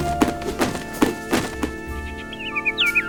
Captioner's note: bird sings